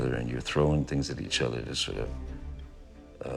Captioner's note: none